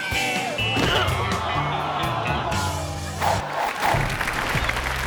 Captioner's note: head thuds; audience applauding